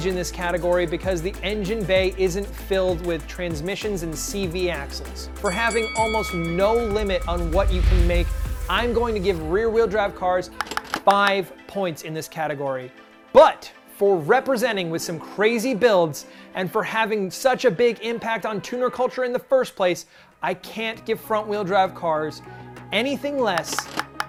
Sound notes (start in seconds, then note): 5.4 ringing bell